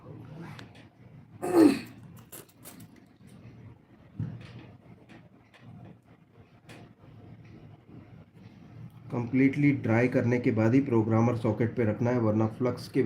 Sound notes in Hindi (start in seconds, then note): 1.4 गला साफ़ करने की आवाज़; 1.4 खांसने की आवाज़